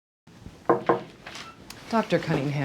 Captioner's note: knock on door